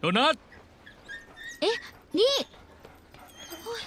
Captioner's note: dog whining